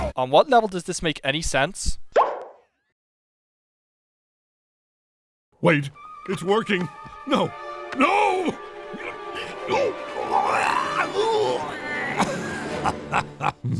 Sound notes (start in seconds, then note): 9.1 chokes; 12.8 laughs